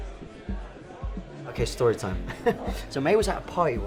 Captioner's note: chuckles